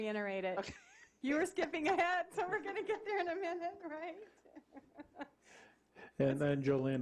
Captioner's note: laughing